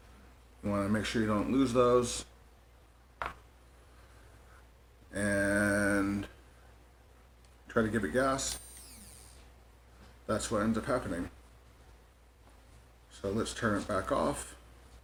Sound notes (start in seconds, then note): 8.4 motor starts whining